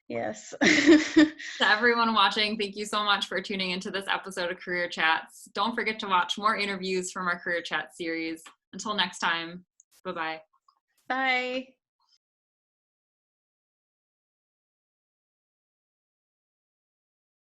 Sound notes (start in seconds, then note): 0.6 chuckles